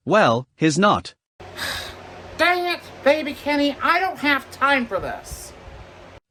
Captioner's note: sighs